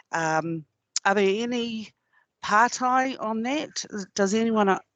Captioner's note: non-english